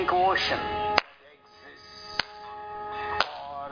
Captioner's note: claps in JOY